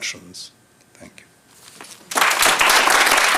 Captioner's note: applause